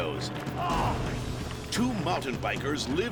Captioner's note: biker groans